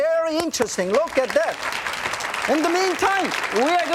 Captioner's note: clapping